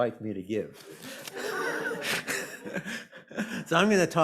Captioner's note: laughter